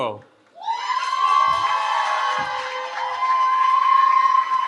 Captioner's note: cheering